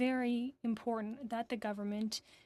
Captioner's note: speaking FRENCH